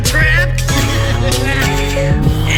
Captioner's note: chuckles